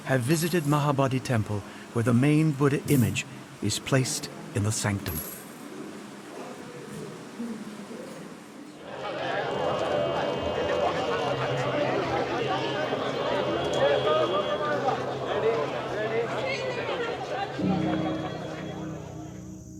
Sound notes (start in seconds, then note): 14.0 horn tooting